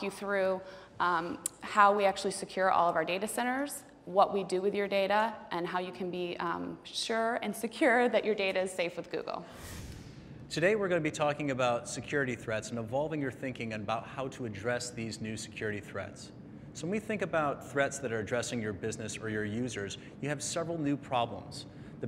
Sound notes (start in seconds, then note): 9.5 whoosh